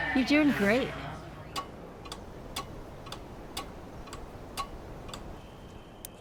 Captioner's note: clock ticking